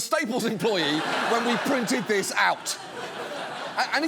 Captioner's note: studio audience laughing